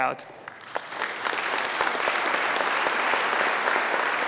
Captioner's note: audience claps